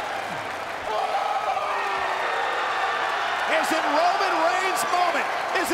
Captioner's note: applause